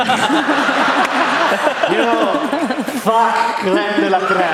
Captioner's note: laughter